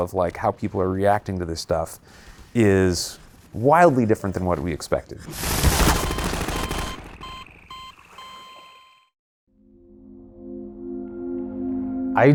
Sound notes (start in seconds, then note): 5.4 loud automatic gunfire; 5.8 beeping; 10.0 compelling music